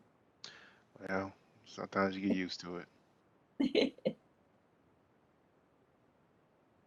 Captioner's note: laughs